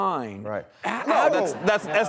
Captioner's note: crowd laughing